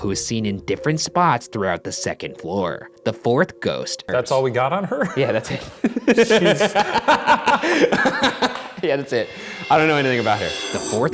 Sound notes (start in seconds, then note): 4.8 laughs; 7.2 both laugh